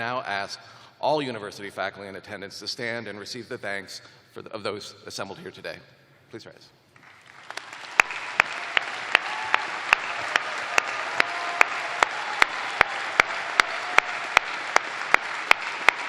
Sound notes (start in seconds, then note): 4.2 cheers and applause